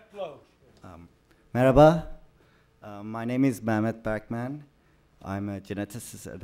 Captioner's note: non-english speech